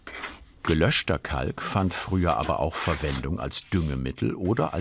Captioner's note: none